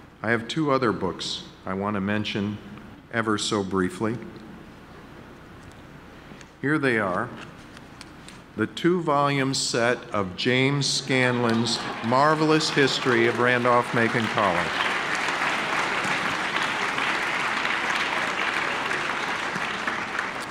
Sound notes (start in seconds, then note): 14.8 audience clapping